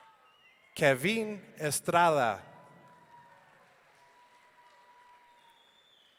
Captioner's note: audience cheering